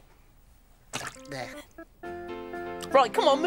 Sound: juice splashes

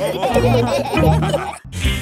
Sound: all laughing

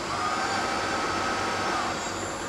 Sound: machine noise

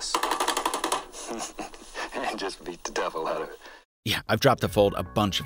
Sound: laughs

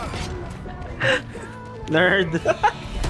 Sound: inhales

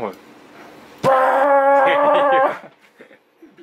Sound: laughs

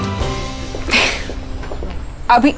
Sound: Poonam laughs

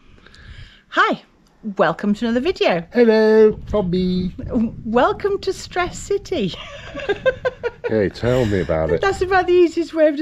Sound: laughter

